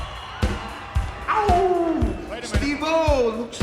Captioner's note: upbeat music; Dude Love howls